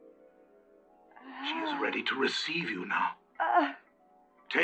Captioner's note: groaning